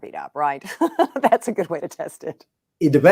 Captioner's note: chuckles